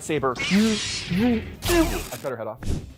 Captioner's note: light zapping